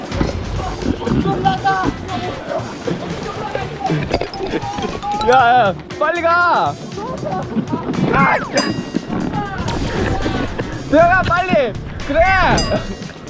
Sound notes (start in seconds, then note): 3.9 running